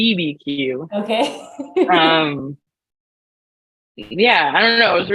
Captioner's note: laughs